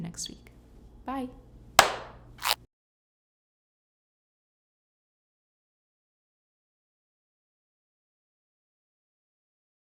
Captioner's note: clap